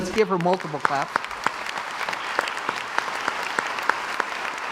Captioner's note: crowd applauds